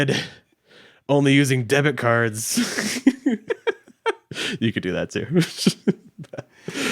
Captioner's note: laughs